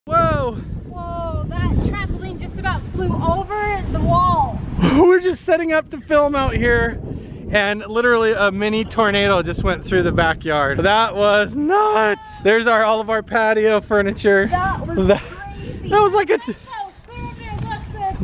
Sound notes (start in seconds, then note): 0.0 wind blowing